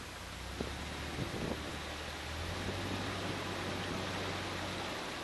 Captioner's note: engine being put into reverse gear - sound